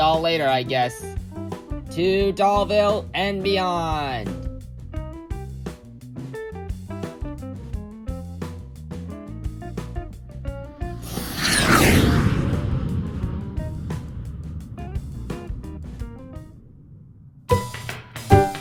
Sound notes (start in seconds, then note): 3.6 jazz music playing; 11.0 jetpack sounds; 16.3 happy pop music playing